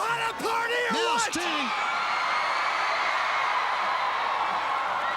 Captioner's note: crowd cheering